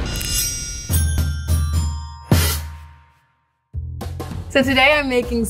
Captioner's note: bells dinging